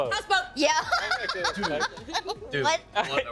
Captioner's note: laughing